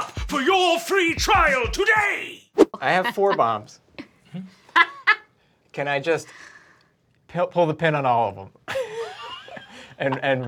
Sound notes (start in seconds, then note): 4.7 laughing; 8.7 laughing